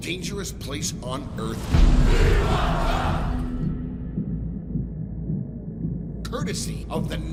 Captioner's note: chanting